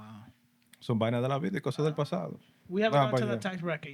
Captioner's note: speaking Spanish